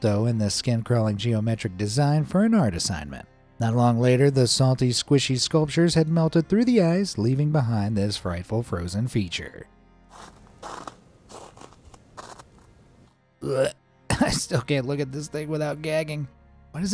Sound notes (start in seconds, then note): 11.2 ice rasping; 13.4 narrator retching